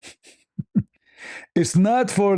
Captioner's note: ketawa